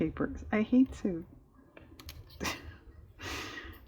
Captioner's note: laughs